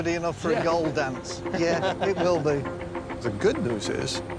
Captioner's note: laughter